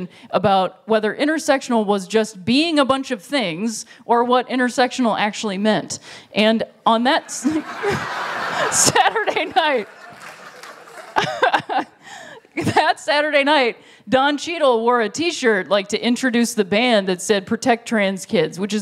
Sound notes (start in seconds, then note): 7.2 laughter